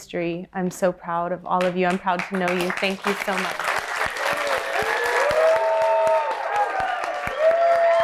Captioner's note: applause